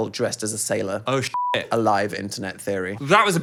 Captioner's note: beep